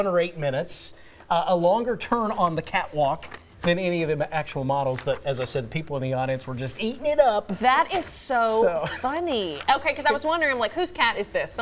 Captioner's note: laughter